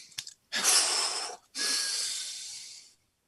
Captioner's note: exhaling